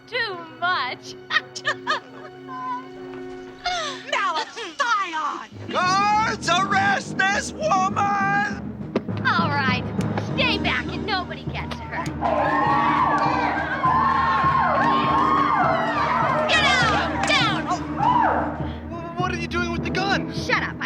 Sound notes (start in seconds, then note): 15.4 cheering